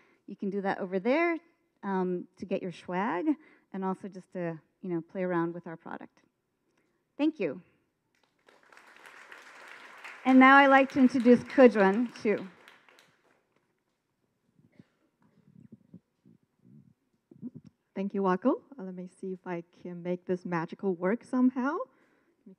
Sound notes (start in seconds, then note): 8.2 audience applause